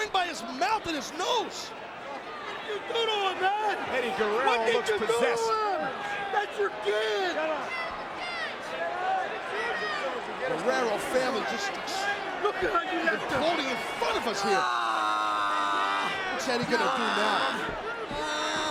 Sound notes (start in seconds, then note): 14.2 Chavo screaming